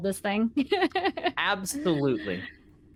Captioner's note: laughing